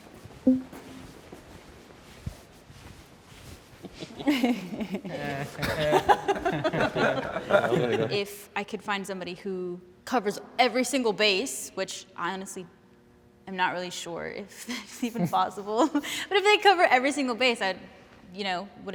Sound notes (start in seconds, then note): 3.9 participants laughing